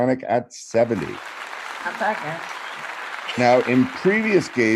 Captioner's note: applause